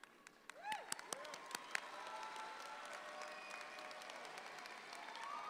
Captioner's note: audience applauds